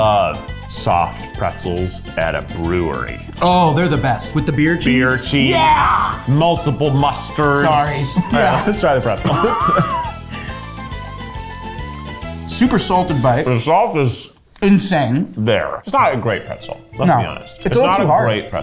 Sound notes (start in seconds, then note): 9.9 both laugh; 11.0 energetic music